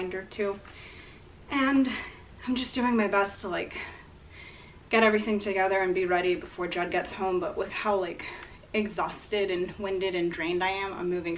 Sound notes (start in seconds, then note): none